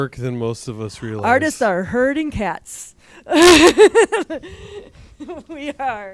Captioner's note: laughs